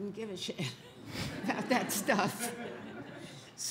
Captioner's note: audience laughs